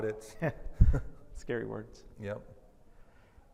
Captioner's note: laughs